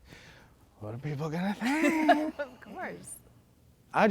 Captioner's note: laughs